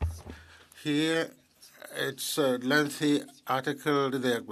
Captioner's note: speaking French